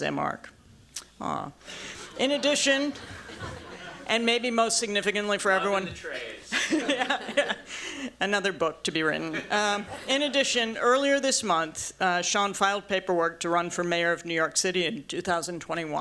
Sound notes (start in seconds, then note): 6.4 laughter